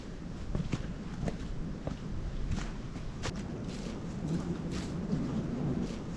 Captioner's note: wind